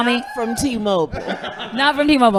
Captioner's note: laughing